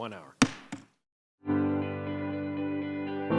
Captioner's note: gavel bangs; pleasant music